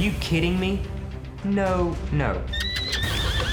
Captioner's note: horse neighs